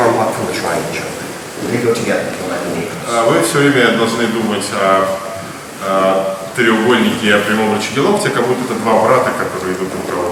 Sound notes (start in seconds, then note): 3.6 speaking in a foreign language